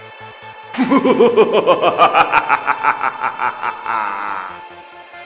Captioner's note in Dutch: Lachen